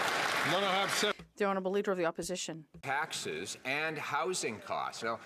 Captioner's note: some Applause